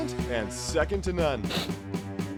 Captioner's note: sniffle